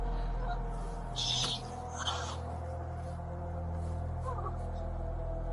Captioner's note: both crying; soft dark music